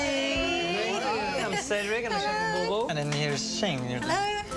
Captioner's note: chuckles